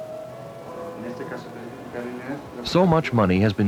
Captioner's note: murmuring doctor on hospital rounds